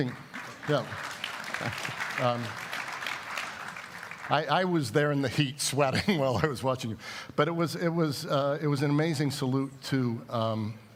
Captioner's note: applause